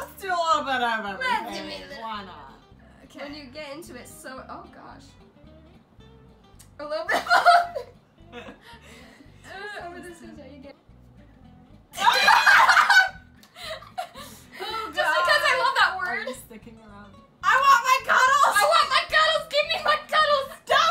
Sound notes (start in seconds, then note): 7.0 laughs; 7.2 bursts of laughter